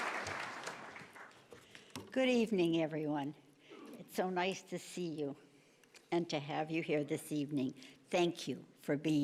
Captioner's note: applause